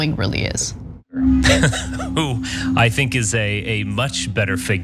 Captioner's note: laugh